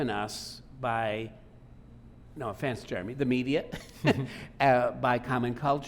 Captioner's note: laughing